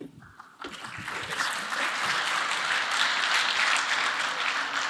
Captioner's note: audience applauding